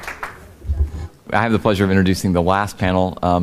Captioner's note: applause